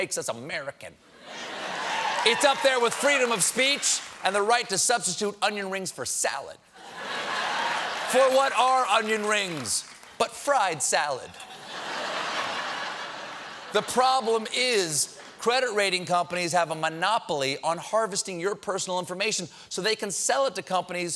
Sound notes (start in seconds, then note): 1.2 laughter; 1.6 applause; 7.0 applause; 11.3 laughter